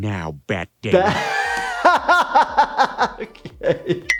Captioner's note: laughs